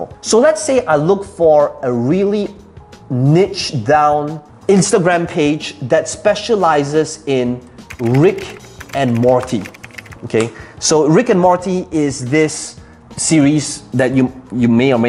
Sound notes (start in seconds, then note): 7.9 clicking keys